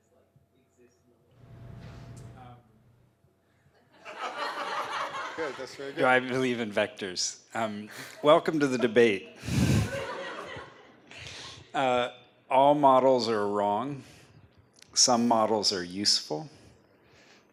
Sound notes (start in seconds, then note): 3.8 laughter; 8.5 laughter